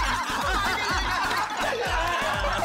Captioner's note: laughing